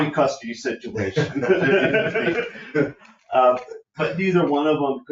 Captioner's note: people laughing